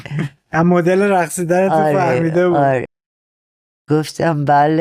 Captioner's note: laughs